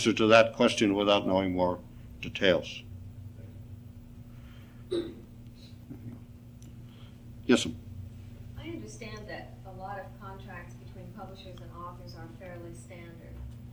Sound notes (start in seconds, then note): 4.8 clears throat